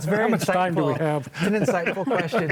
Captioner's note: laughs